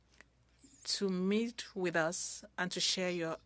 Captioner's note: speaking French